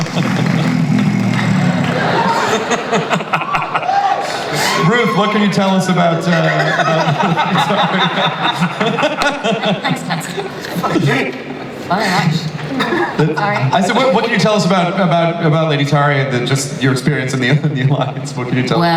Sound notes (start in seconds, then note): 0.0 panel laughs; 0.0 Clancy growling; 2.4 audience laughter; 8.0 laughs